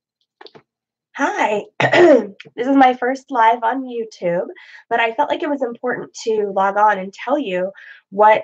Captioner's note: clears throat